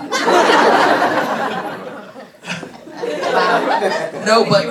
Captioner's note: audience applause